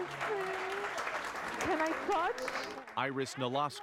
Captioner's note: applause